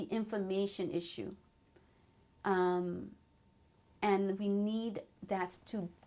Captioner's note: pauses for 3 seconds